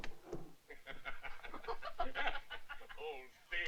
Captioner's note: guy and woman laughing